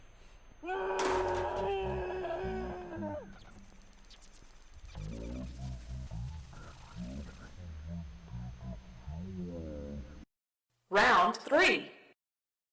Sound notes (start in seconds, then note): 0.6 muffled scream; 4.9 electronic malfunciton